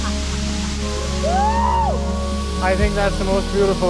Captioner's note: screaming in excitement